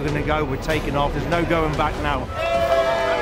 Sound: people cheering

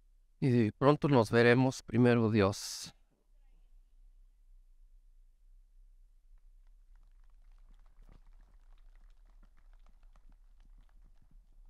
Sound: Spanish

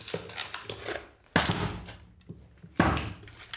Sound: dull noise, wood creaks

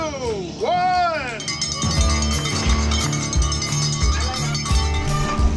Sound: bell ringing

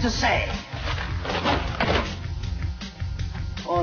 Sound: books falling as music plays

